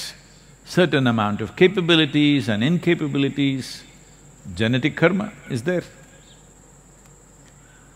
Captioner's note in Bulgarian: none